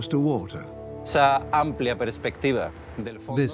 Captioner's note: speaks in Spanish